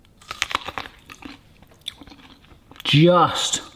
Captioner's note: crunches